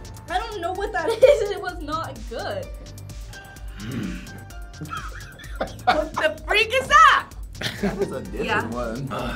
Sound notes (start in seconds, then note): 1.1 laughing; 3.7 grunts; 4.7 laughing